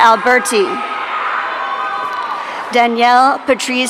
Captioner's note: audience cheering